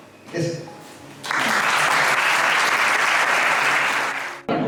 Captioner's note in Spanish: aplausos